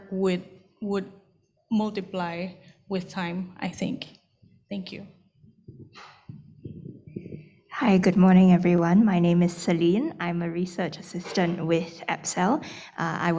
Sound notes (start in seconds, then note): none